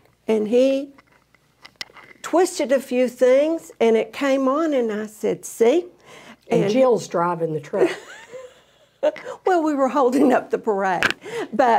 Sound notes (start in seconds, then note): 7.7 laughs